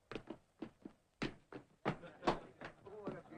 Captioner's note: laughter